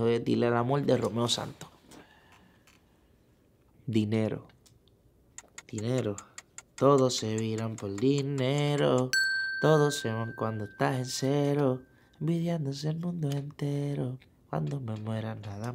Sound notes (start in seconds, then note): 0.2 speaking in foreign language; 7.4 singing in foreign language; 9.2 positive beep